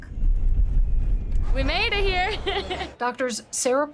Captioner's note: laughs